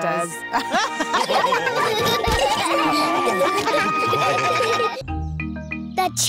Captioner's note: all laugh